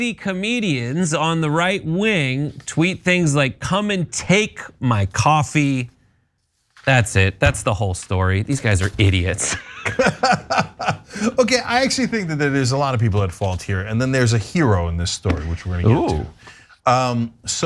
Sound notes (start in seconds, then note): 9.8 laugh